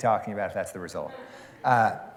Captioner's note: laughter